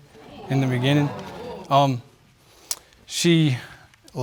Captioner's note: audience exclaiming